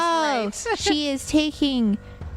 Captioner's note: laughs